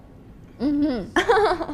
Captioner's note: laughs